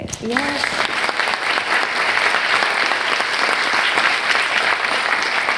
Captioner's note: audience clapping